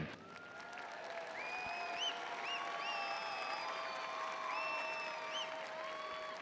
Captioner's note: audience applauding and cheering